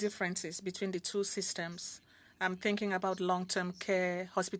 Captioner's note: speaking French